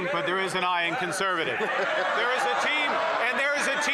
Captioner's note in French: voix de l'interprète